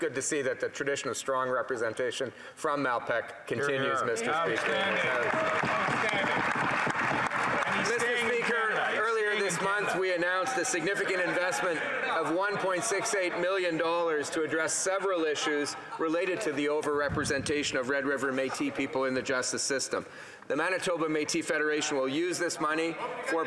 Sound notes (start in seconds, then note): 9.0 applause